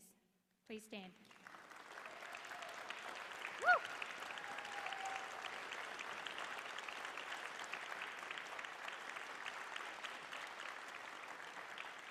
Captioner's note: applause